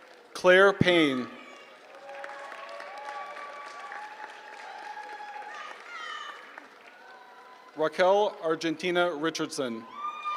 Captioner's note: applause